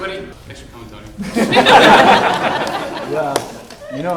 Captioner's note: laughter